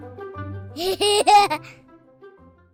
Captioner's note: laughter